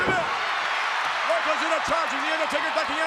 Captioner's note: audience cheers